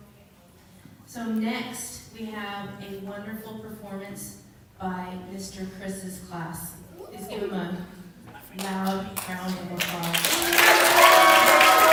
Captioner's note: applause